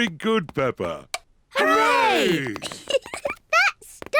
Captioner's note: giggles